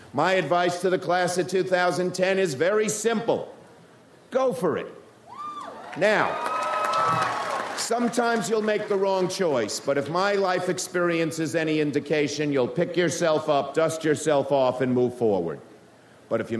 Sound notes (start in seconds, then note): 5.3 audience cheers